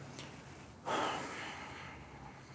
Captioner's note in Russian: вздох